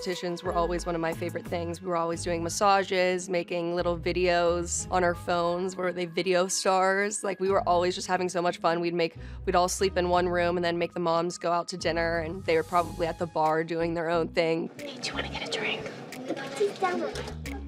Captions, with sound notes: were always one of my favorite things. We were always doing massages. Making little videos on our phones. We're the video stars. We were always just having so much fun. We'd all sleep in one room and then make the moms go out to dinner and they're probably at the bar doing their own thing. [whispers] Hey, do you wanna get a drink?